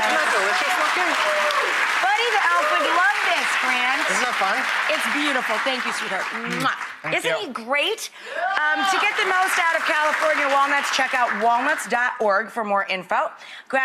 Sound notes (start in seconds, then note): 3.4 audience clapping; 6.3 kisses